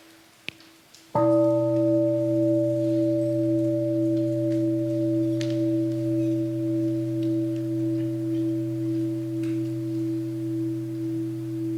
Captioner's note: first sound of the bell